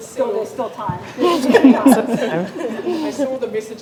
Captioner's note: group laughs